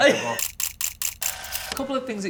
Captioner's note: camera shudders